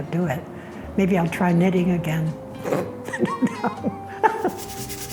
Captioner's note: scoffs